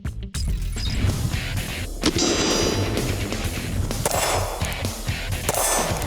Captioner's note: hard rock music; gunshots